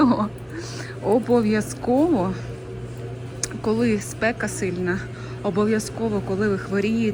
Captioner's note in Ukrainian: сопіння